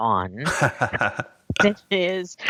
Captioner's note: laughs